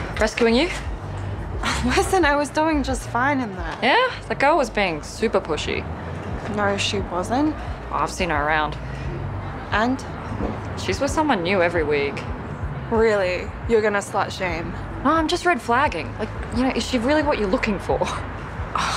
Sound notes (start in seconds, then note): 1.7 scoffs